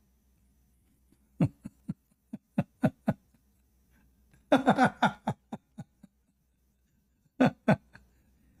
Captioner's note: Ketawa